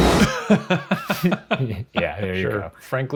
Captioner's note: laughing